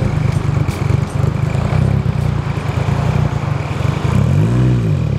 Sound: car engine rumbling; car engine revving

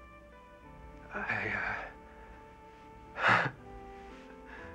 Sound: chuckles

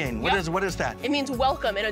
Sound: speaks a foreign language

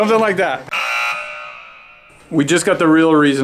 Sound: buzzer

